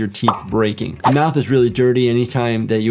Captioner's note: screen whooshing